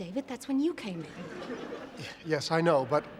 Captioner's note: laughter